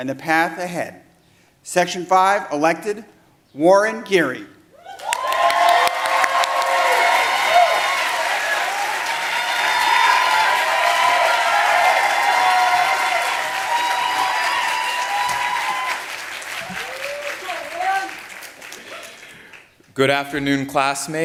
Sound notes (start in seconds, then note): 7.3 applause